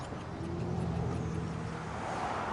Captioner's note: birds chirping